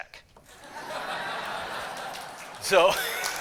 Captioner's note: laughter